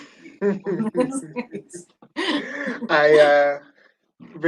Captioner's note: giggling